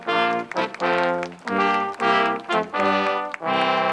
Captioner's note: crowd applauds